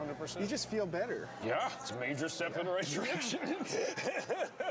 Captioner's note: laughing